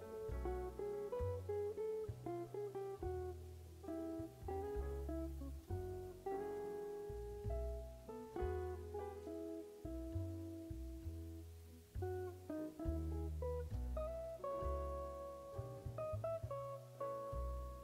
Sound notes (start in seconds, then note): none